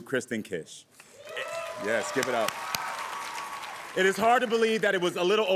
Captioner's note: audience cheering